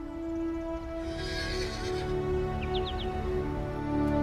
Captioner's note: birds chirping; horse neighing in the distance